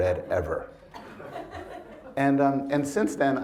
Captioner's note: attendees chuckle